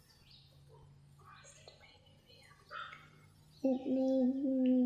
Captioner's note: whispers